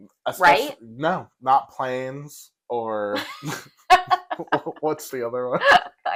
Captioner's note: laugh